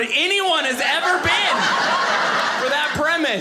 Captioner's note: audience laughing